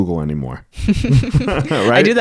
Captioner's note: both laugh